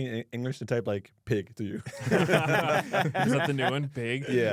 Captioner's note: laughs